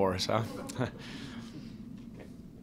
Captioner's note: laughter